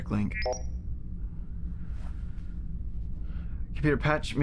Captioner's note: computer beeps